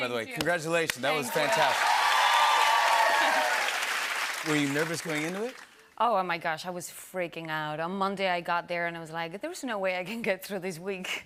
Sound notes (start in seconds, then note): 1.0 cheers and applause